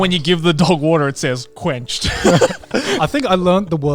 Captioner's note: chuckles